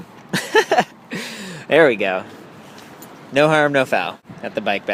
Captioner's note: laughing